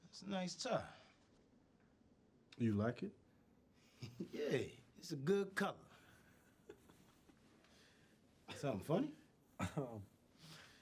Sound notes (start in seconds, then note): 6.6 chuckles